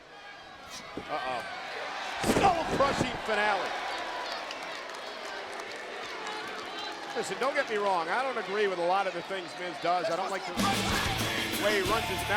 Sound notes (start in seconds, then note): 6.2 crowd chatter